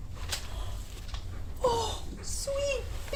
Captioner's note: Nev gasps